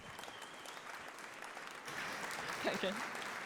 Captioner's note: applause